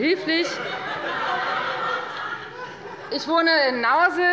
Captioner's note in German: Heiterkeit und Beifall bei der FDP